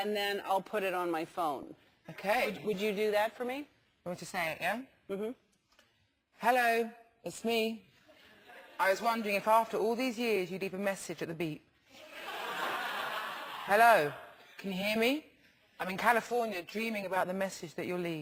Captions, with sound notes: And then I'll put it on my phone. Okay. Would you do that for me? You want me to say it, yeah? Mm-hm. Hello, it's me. I was wondering if after all these years, you'd leave a message at the beep. [LAUGH] >> Hello, can you hear me? I'm in California dreaming about the message that you'll leave.